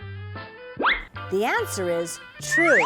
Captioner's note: whistle